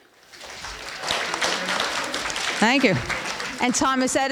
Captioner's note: applause